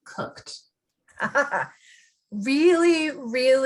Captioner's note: laughing